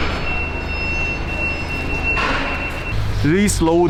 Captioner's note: forklift beeping